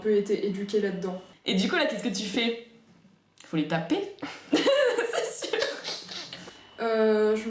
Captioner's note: laughter